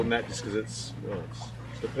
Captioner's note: none